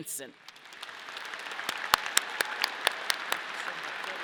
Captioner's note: audience clapping